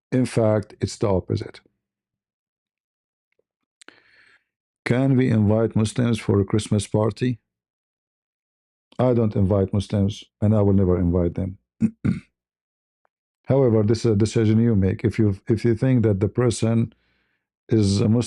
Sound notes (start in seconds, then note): 11.8 berdehem